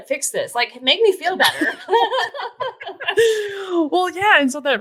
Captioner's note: laughing